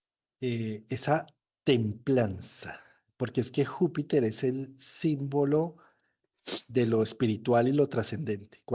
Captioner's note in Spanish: resoplido